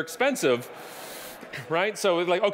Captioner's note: audience laughing